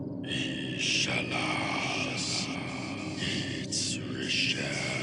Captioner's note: voices whispering